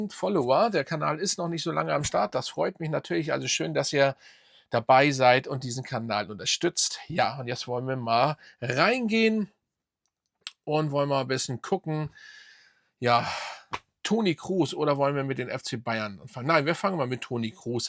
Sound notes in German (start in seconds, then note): 12.1 japst; 12.9 seufzt